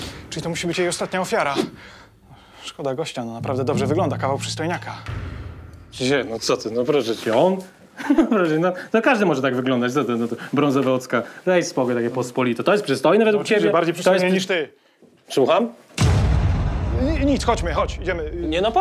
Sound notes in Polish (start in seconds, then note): 8.0 histeryczny śmiech; 16.0 dramatyczny dźwięk bębna